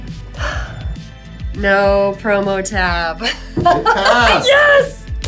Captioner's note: sighs; laughs